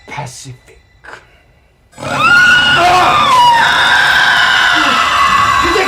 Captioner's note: screeches